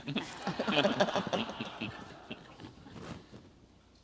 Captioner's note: audience laughs